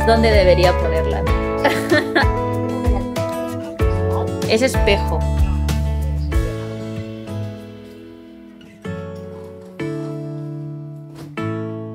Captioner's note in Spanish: Risas